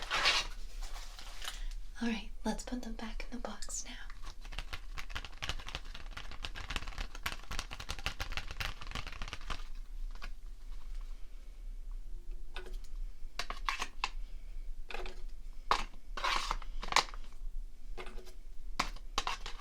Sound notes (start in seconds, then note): 5.3 tapping sounds